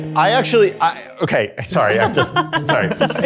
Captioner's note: laughs